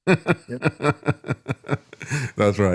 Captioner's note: laughing